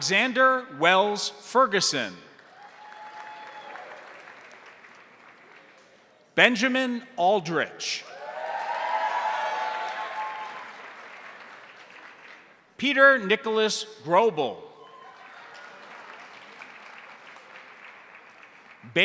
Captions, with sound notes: Alexander Wells Ferguson. (crowd applauding) (crowd cheering) Benjamin Aldrich. (crowd applauding) (crowd cheering) Peter Nicholas Grobel. (crowd applauding)